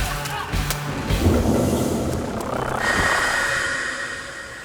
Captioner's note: air whooshes